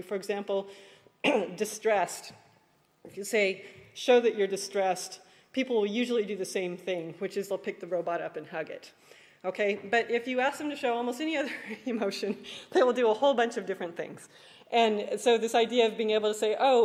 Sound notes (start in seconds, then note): 11.6 laughs